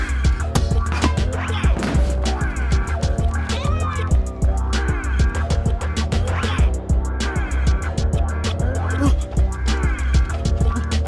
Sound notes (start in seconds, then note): 0.3 upbeat music; 1.7 body thuds; 5.1 upbeat music continues